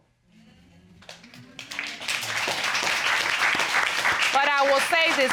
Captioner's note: audience applauds